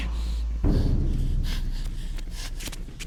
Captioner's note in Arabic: لهاث